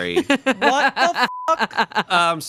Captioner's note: beep